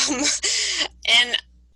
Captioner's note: laughing